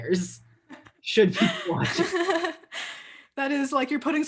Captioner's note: both laughing